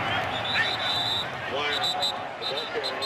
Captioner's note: whistling